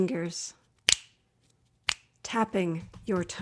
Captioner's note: snaps